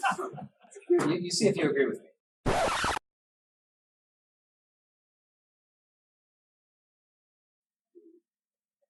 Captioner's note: muted laughter; record scratch; silence